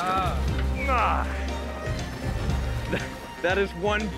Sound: grunts

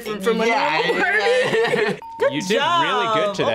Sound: both laugh

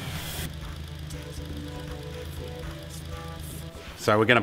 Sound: engine idling

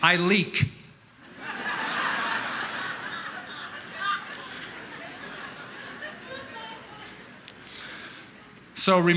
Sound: laughter

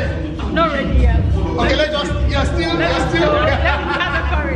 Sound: laughs

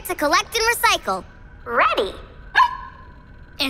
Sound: barking

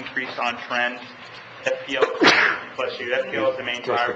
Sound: man sneezes

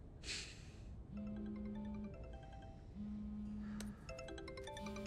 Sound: Hughie sighing heavily; cellphone ringing

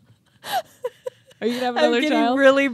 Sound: chuckling

